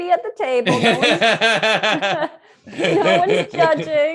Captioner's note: laughs